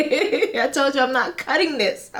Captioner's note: laughs